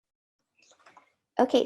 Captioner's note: silence